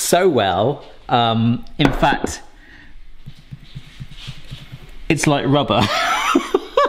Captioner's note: laughs